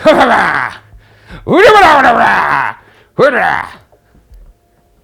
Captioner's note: babbling